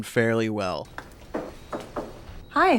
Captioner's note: knocking on door